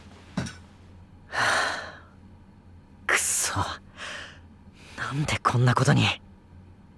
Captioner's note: sighing